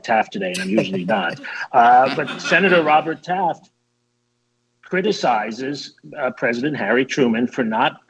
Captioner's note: laughter